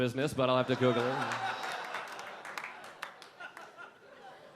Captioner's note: audience laughing